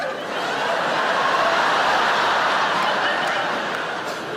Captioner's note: audience laughing